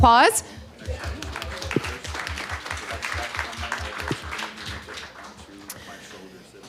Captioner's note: audience applause